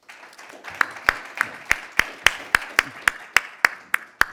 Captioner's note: audience applauding